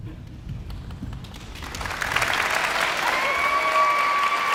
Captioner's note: audience applauds